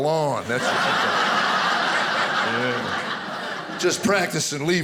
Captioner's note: audience laughing